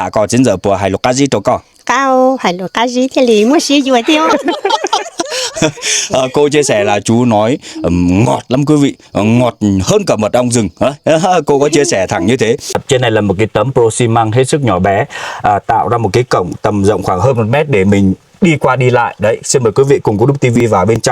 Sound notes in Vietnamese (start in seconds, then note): 4.0 tiếng cười